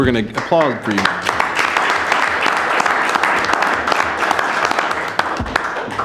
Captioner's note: audience applauding